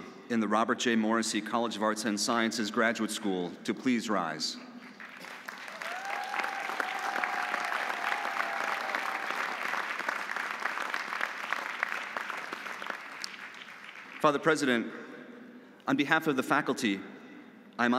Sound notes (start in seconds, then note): 4.8 audience applauding; 5.3 audience cheering